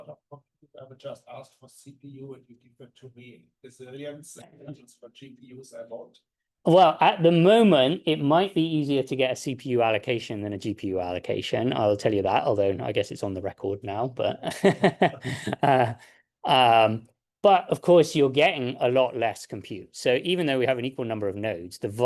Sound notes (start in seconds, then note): 14.5 laughs